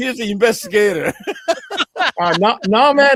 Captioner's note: laughter